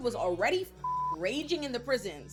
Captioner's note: beep